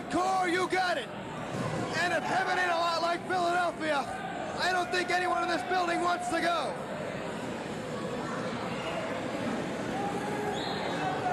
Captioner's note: cheers and applause